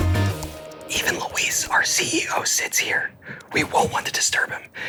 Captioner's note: lively music continues; whispering